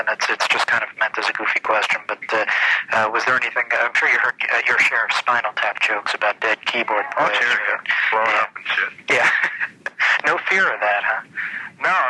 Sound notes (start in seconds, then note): 9.7 laughs